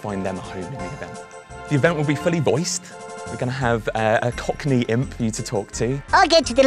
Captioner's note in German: auf Englisch